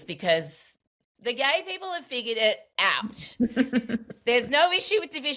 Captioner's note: laughs